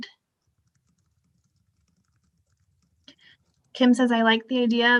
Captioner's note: keyboard clacking